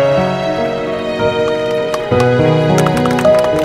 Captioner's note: Everyone clapping